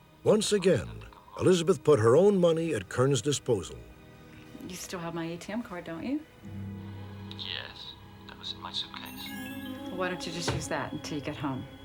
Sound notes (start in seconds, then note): 7.2 on phone